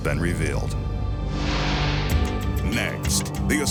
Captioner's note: light beam swishing